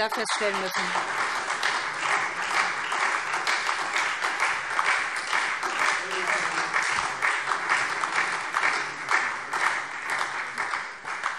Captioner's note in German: Beifall SPD und Freie Demokraten